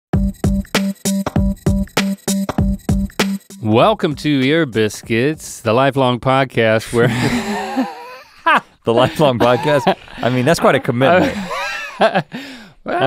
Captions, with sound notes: (rhythmic music) - Welcome to "Ear Biscuits," the lifelong podcast where (laughs). - The lifelong podcast? I mean, that's quite a commitment.